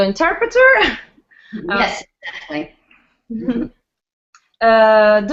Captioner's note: laughing